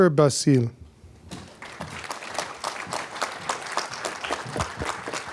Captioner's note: applause